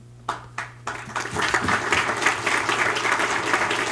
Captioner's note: applause